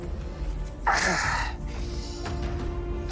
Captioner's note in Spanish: Quejido